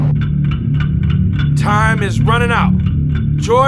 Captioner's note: clock ticking